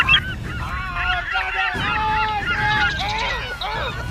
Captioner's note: gulls squawking; Dale screaming; gull screeching